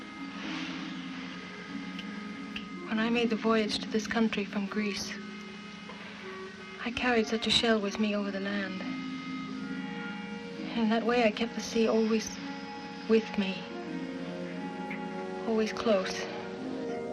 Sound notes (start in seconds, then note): none